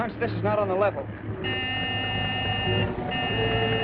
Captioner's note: honking